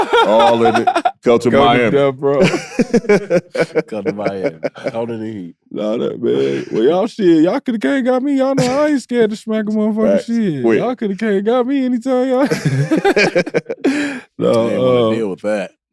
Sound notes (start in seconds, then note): 0.0 laughing; 2.3 group laughing; 12.3 laughing